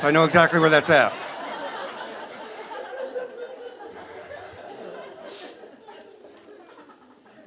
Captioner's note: audience laughing